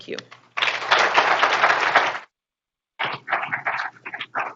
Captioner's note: group applauding